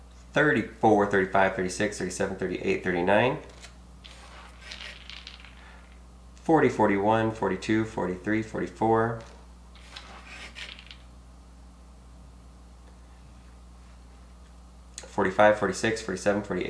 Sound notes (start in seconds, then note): none